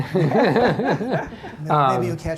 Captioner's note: laughter